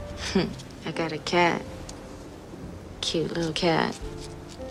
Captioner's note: gentle piano music; chuckles